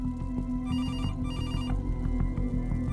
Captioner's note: Phone ringing